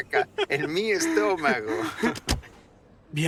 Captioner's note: laughs